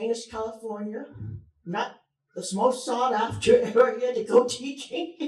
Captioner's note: chuckles